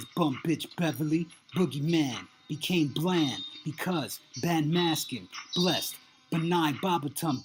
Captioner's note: chant